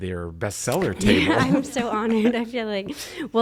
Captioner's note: laughs